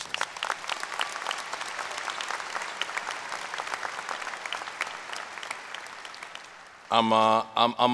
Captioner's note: applause